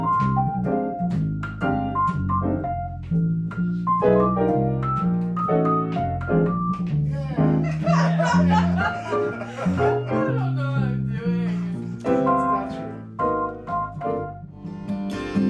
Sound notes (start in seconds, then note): 7.6 group laughing; 15.3 soft guitar music